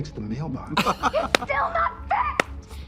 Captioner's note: Trixie and Katya laugh